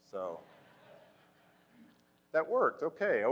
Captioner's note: crowd laughing